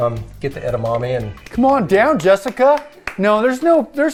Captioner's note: claps